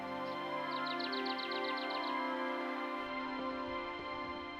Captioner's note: birds chirping